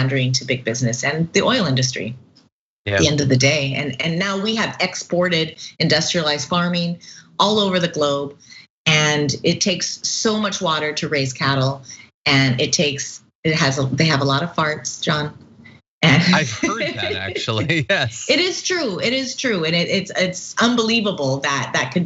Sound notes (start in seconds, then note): 16.0 laugh